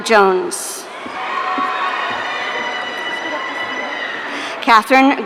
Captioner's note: audience cheering